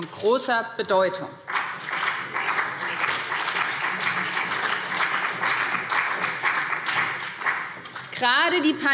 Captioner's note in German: Beifall BÜNDNIS 90/DIE GRÜNEN und CDU